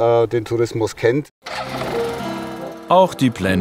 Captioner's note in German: Motorengeräusch